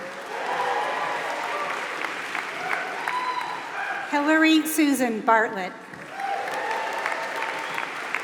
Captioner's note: applause